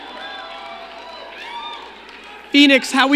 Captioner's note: crowd cheering